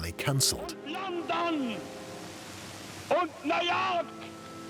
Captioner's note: speaking German